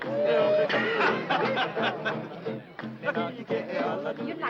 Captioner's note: Culley laughing